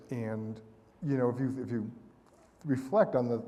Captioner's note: none